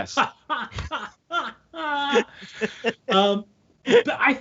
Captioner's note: all laughing